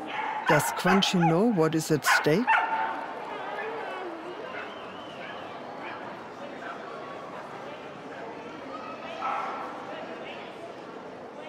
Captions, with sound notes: Does Crunchy know what is at stake? (crowd whistling)